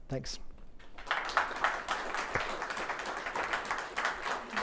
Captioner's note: audience applauds